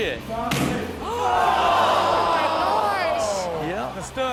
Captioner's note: shouting